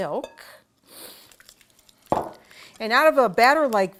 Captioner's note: pouring